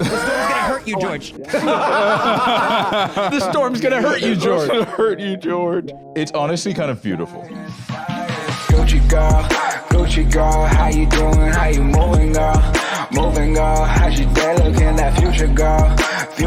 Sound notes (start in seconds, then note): 1.4 both laughing; 7.2 outro music